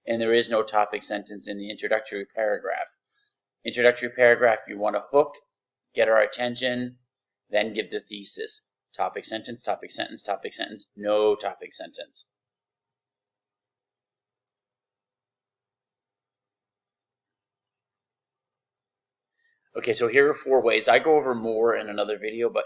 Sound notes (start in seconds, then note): 14.4 mouse click; 17.6 mouse click